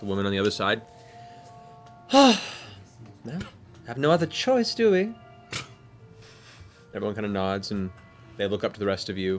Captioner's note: huffs